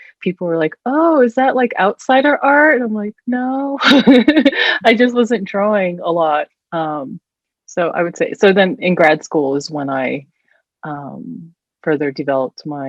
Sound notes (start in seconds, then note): 3.8 chuckles